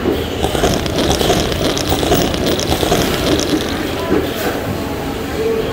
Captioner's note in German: Schlürf